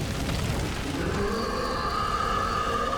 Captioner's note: roaring